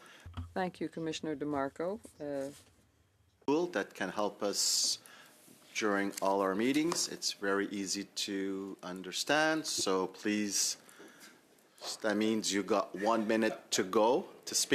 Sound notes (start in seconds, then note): 2.8 speaking French